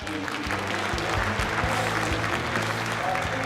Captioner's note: clapping